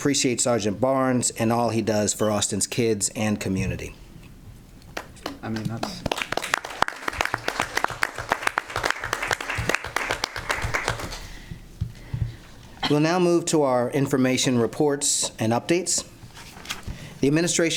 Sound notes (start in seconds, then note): 12.0 applause